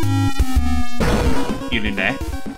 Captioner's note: smooth jazz; splat!